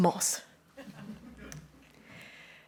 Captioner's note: laughter